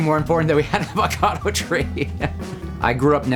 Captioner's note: laughing